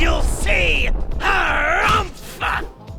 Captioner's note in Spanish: Gruñe